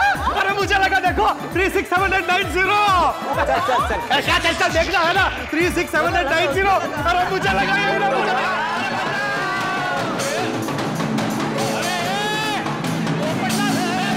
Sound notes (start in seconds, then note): 9.1 cheering